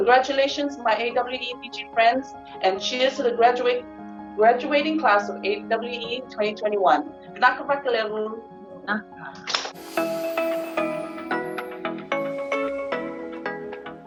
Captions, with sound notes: Congratulations, my AWE Fiji friends, and cheers to the graduating class of AWE 2021. [NON-ENGLISH SPEECH]